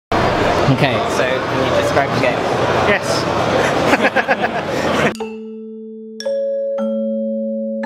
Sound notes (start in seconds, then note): 3.4 laughs